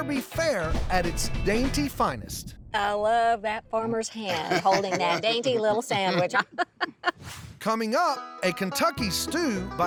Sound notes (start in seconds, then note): 6.6 laughs